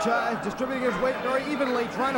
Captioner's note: crowd cheering